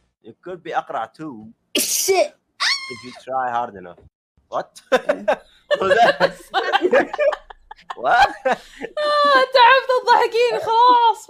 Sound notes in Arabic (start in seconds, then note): 1.8 يعطس; 2.6 يصرخ; 4.8 يضحك; 5.7 تضحك